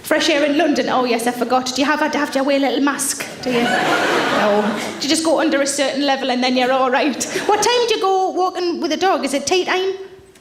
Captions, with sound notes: - Fresh air in London, oh yes, I forgot. Do you have to have to wear a little mask, do you? (audience laughs) No. Do you just go under a certain level and then you're all right? What time did you go walking with a dog? Is it tea time?